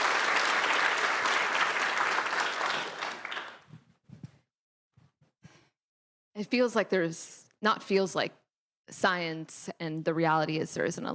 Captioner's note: applause